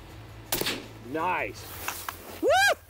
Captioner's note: firing rifle; cheering